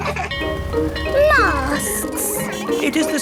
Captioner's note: bell ringing